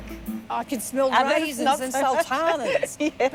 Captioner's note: laughs